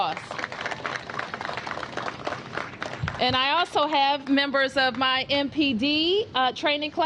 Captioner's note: applause